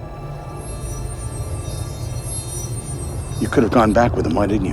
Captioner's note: buzzing